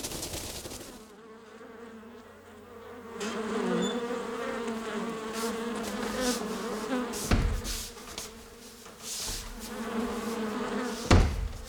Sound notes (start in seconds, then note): 0.1 sound of buzzing bees